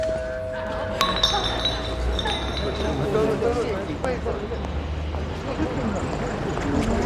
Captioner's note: bell ringing; youths murmuring; bottle clanking